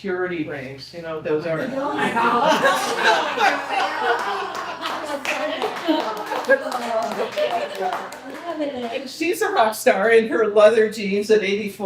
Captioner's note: people laughing